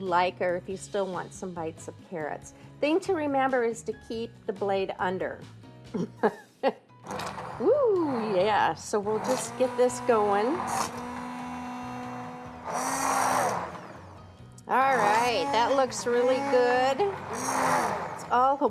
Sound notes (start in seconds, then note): 5.9 laughs; 13.6 whirring